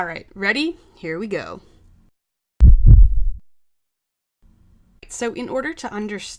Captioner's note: heartbeat